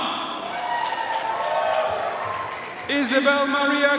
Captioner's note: audience cheering and applauding